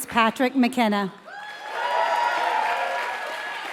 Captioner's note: applause